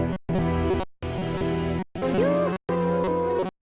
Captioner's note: growling